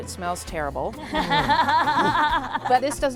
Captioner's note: all laughing